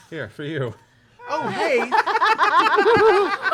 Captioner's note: laughter